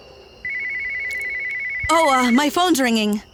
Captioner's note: phone rings